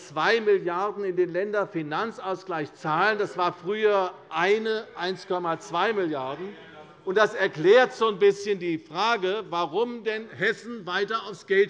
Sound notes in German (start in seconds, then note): 6.4 Zurufe SPD